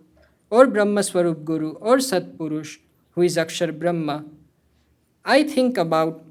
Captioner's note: hindi